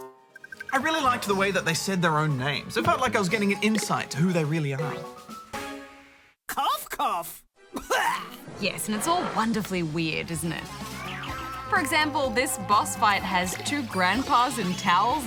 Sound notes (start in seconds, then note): 7.7 coughs